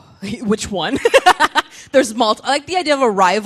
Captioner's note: laughing